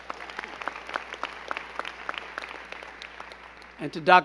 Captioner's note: crowd clapping